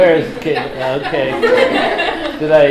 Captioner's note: laughter